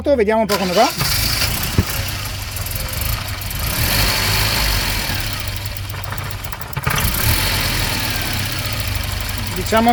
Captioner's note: engine running badly